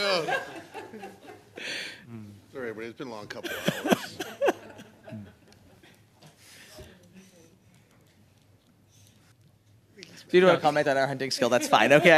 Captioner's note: laughter